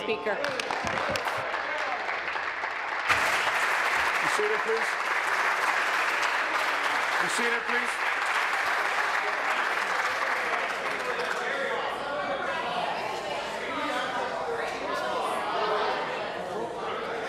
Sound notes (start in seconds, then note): 4.2 applause